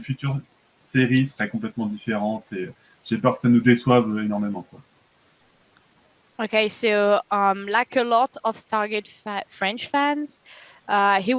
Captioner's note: translating from French